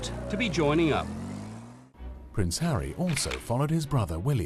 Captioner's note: voiceover